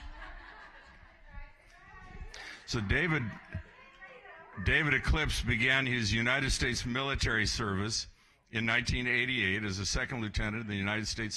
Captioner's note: applause